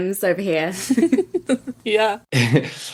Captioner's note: laughs